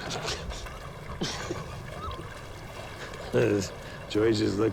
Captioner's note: chuckling